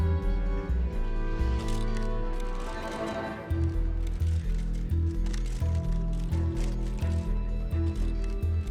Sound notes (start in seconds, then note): 1.6 shutters clicking